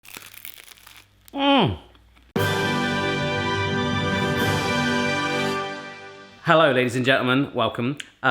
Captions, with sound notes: (food crunching) - Mm. (dramatic music) Hello, ladies and gentlemen, welcome.